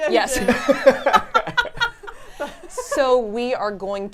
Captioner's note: laughing